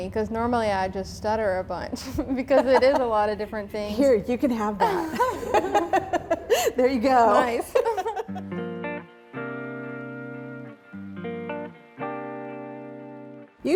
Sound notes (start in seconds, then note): 4.8 group laughing; 8.6 upbeat music